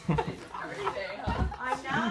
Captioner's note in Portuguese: risos